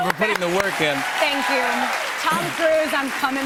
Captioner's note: cheers and applause